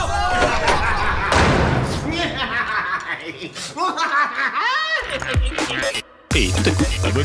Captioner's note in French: Rires diaboliques